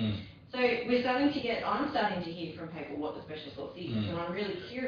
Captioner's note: audio distorts; audio distorts